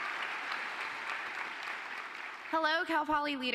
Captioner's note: applause